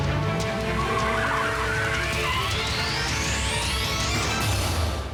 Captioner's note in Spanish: chillido de neumáticos